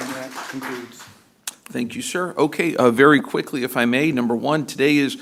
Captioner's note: applause